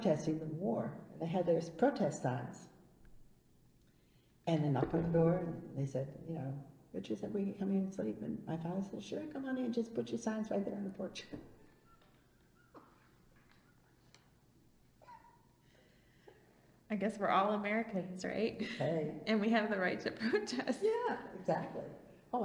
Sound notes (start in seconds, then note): 4.7 imitating knocking; 11.7 laughs